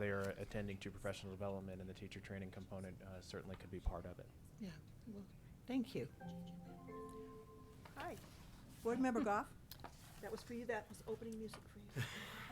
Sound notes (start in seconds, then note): 6.0 computer chimes; 12.0 all chuckling